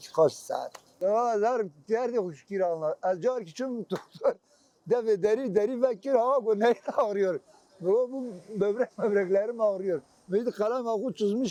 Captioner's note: in Turkish